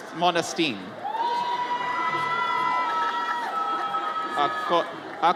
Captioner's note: audience cheers